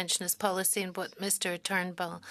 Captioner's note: speaking French